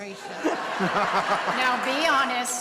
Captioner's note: laughter